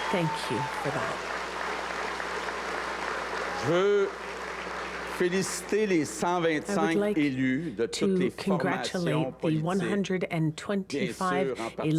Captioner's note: cheers and applause